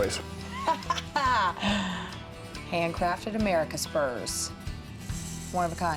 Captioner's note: chuckling